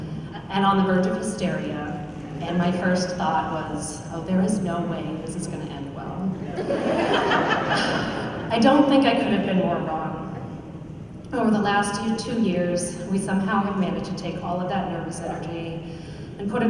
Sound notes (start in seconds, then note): 6.4 laughter